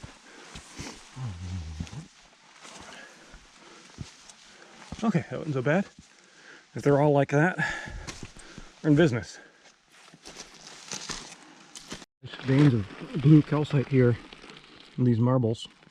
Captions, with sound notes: Okay, that wasn't so bad. If they're all like that, we're in business. (leaves rustling) Veins of blue calcite here in these marbles.